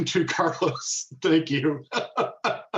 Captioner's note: laughs